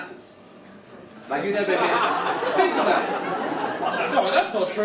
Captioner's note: audience laugh